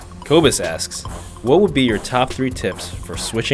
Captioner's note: voiceover